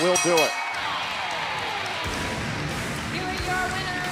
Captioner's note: bell ringing